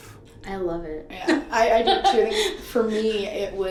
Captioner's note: laughs